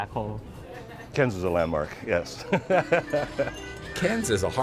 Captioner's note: laughs